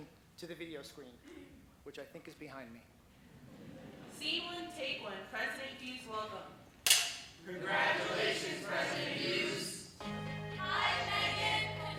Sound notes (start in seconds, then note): 4.0 laughing; 6.8 clapperboard clicks